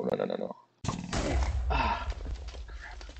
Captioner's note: creeper explodes